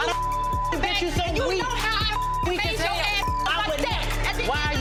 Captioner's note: beep